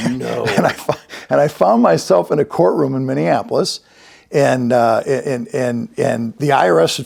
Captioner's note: laughs